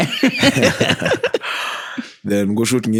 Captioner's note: laughing